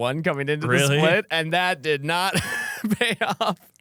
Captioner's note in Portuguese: risos